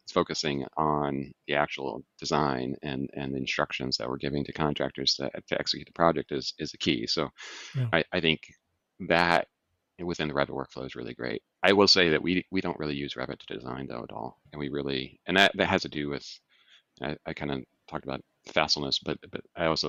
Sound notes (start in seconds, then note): 17.4 laughs